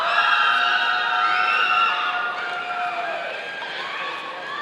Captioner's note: audience cheering